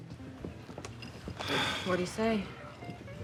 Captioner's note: sighs